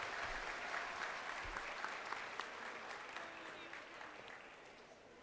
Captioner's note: crowd cheering